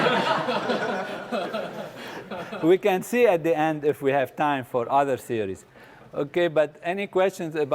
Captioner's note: laugh